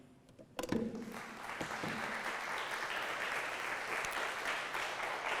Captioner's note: audience clapping